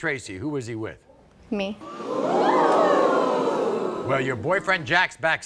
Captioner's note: audience gasps